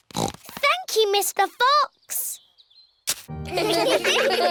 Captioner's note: snorts; laughter